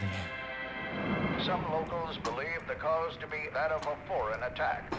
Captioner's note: radio Voice